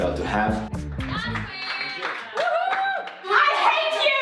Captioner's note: cheers, clapping